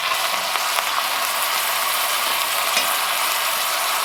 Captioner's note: sizzling